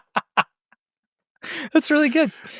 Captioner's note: laughing